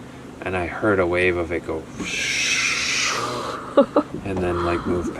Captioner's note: whooshes